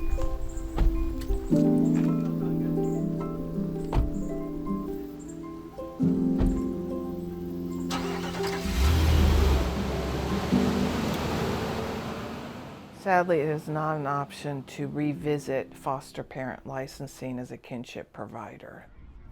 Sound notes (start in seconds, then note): 0.0 car beeping; 0.2 somber music; 3.5 car doors thudding; 7.8 starter sputtering; 10.7 engine revving